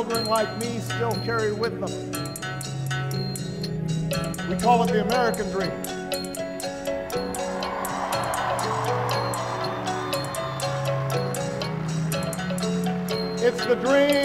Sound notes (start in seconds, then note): 7.7 applause